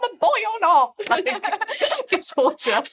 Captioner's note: all laughing